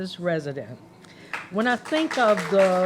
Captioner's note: applause